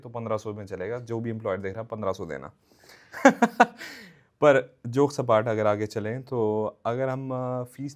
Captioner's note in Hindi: हंसी